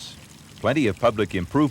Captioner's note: water trickles